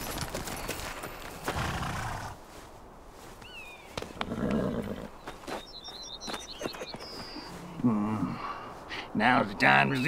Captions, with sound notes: (horse snorts) - Now it's the time to see what all the fuss is about.